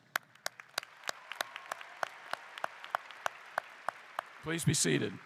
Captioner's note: applause